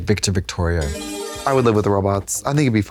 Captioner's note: bright chime